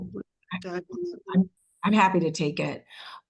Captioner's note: faintly speaking